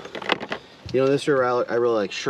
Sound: clattering

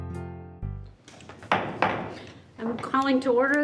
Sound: gavel bangs

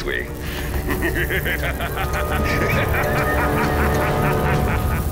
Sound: evil laughter

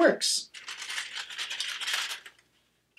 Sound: paper rustling

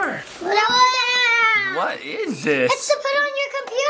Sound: kids exclaiming

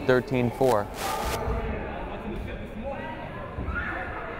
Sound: crowd chattering

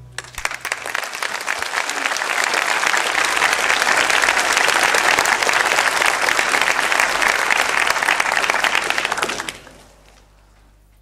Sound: applause

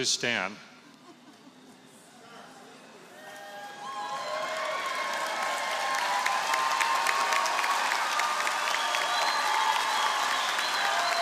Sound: applause

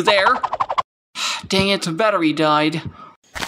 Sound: sigh

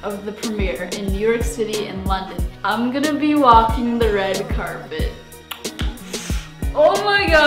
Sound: gasps

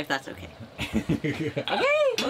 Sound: laughing

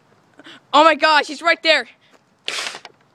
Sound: gasps; pistol sound

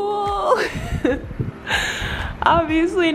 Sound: laughing

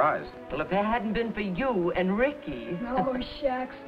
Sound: laughs

